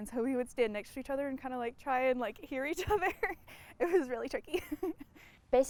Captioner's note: laughs